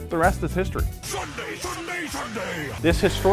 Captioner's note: shouts